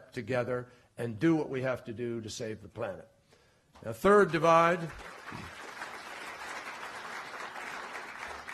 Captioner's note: applause